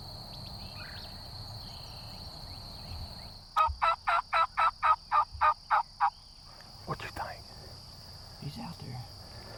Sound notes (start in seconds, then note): 3.6 turkey calls